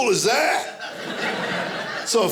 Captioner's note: audience laughing